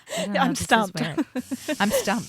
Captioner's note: laughs